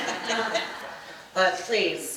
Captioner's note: audience laughing